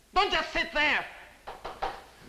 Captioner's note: knocking at door